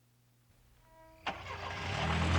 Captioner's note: engine ignition starting